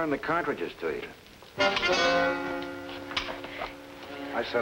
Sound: gun clicks; dramatic music

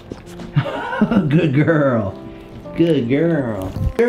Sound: laughs

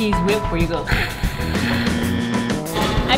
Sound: rumbles throat; buzzer beeps

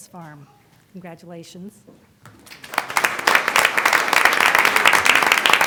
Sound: applause

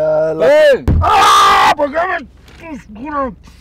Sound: screaming obscenities

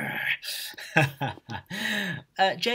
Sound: laughs

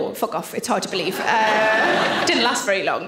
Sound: audience laughing

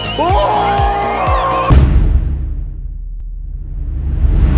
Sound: all screaming

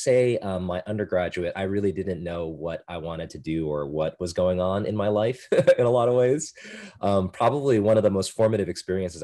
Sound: laughter

